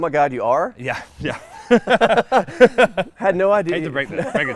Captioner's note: laughing